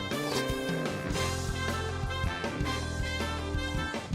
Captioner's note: mouth slurping